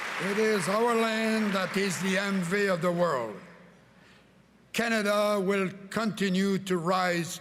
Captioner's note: cheering and Applause